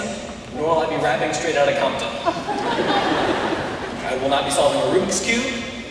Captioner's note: laughter